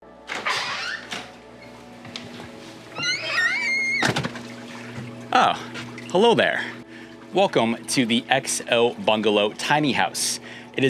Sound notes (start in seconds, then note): 0.5 door squeaks; 3.9 door slams